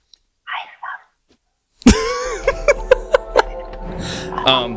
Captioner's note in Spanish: se ríe